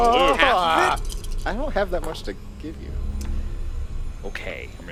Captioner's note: scared / Frustrated noises